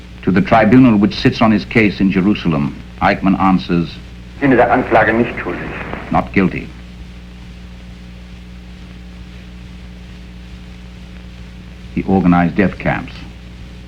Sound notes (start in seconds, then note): 4.4 speaking in foreign language